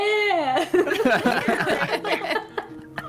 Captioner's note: more laughter